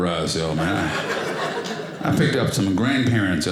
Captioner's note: audience laughing